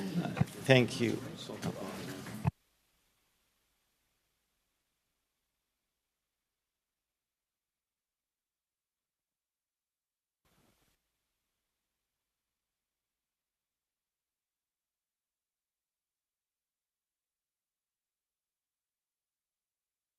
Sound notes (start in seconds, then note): 8.6 silence